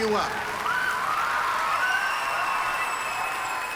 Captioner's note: cheering and applause